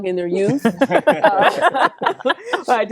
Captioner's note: all laugh